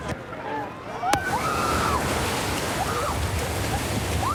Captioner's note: excited screaming